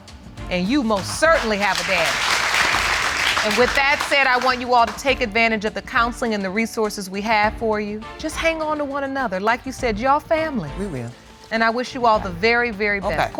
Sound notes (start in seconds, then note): 2.4 audience clapping